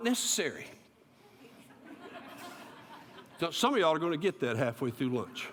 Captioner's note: laughter